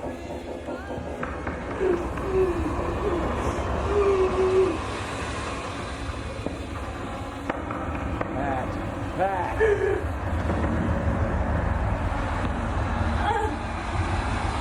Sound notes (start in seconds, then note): 3.6 distant gentle music; 3.6 dramatic effects; 9.4 knocks; 12.4 Pat sobbing